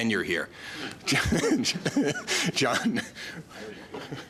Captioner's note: laughs